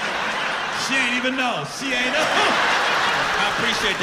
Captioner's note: laughter